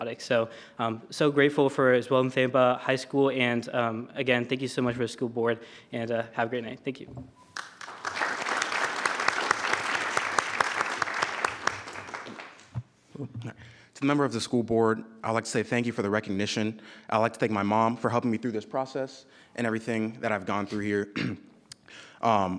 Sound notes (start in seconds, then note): 13.8 applause